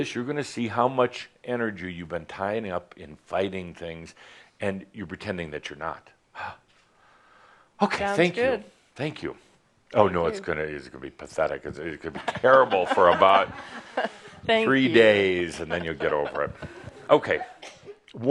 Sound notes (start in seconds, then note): 15.4 chuckles